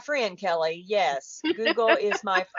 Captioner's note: laughs